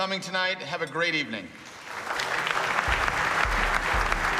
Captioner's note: applauding